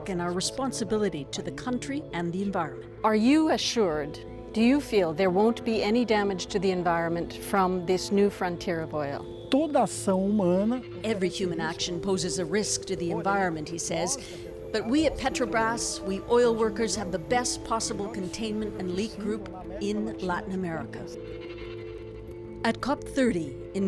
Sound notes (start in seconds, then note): 11.0 speaking alternate language